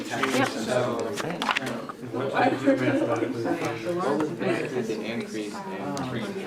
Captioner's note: students continue chattering